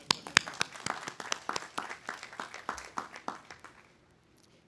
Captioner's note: audience applauding